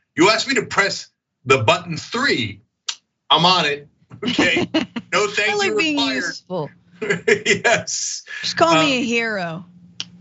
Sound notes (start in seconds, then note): 7.0 laugh